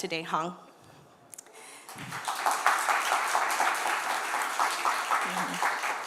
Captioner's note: applause